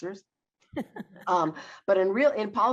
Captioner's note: laughs